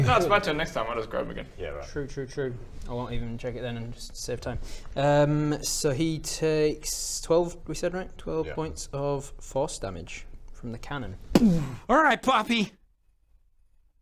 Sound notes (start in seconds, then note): 11.3 boom